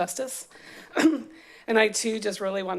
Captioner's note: clears throat